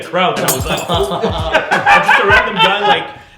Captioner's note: laughing